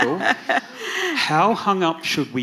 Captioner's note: laughs